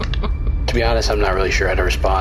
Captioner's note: laughing